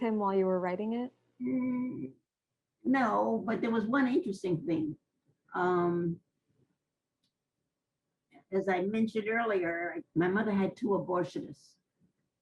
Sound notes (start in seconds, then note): 5.1 pauses for 3 seconds; 11.4 pauses for 3 seconds